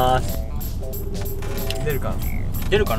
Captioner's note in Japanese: 呼び出し音